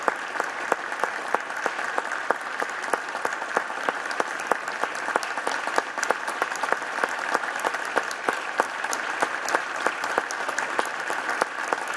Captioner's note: applause